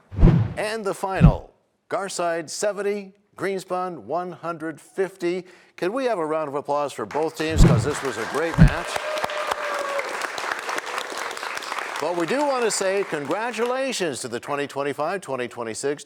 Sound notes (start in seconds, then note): 10.5 cheers and applause